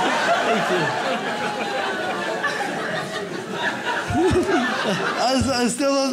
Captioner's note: audience laughs